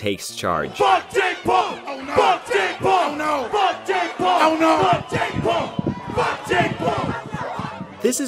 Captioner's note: yelling x5